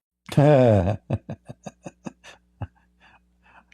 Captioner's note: Ketawa